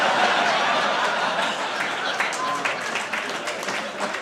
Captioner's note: audience applauding